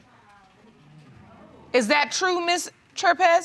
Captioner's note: audience exclaims